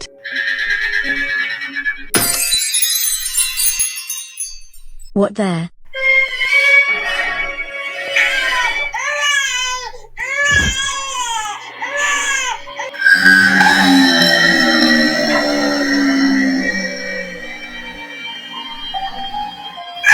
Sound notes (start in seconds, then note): 2.1 poof; 8.1 Karen crying as a baby; 12.9 screaming "Noooooooooooooo!" in slow-motion